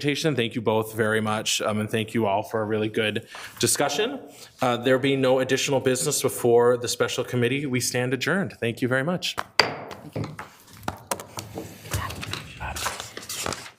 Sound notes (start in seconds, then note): 9.4 gavel bangs